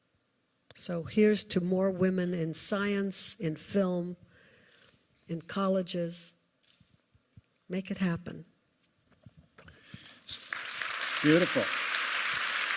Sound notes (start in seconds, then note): 10.0 applause